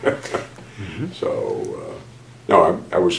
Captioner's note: laughs